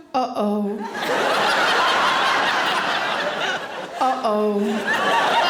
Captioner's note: audience laughing